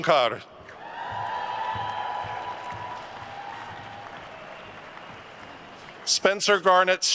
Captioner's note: attendees cheering and applauding